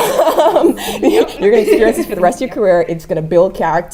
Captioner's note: laugh